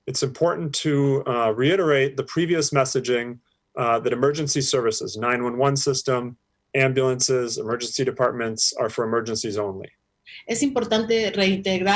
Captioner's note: speaking spanish